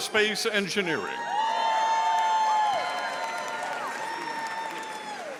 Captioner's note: audience cheering